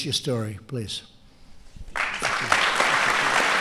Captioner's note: applause